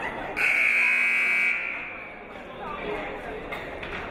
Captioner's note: buzzer blares